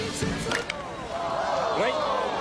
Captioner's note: switches off